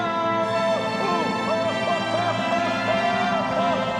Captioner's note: shouting